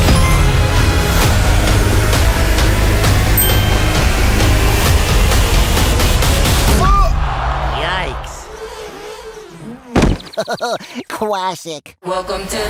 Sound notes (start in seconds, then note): 0.2 cell phone chimes; 8.6 hands squeak; 9.6 Tweety Bird laughs; 9.7 LeBron thuds